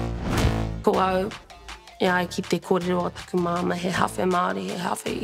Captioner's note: speaks Te Reo Māori